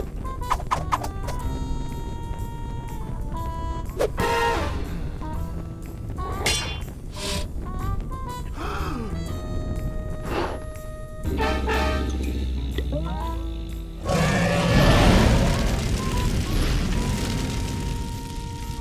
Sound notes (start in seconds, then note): 8.5 gasps; 10.2 blows softly; 11.2 growls; 14.1 dragon roars